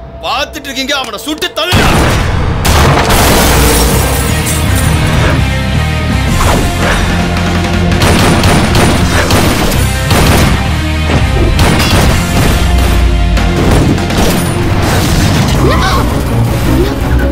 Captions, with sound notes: Shoot that fellow! (Gunshot) (Gunshot)